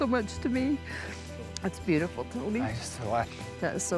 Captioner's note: says tearfully